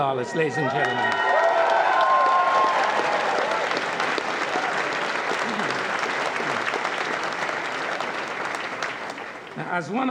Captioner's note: applause